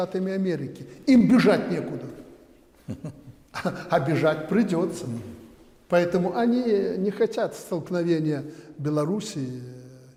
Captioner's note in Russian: смеется